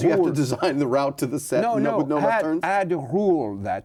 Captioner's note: laughs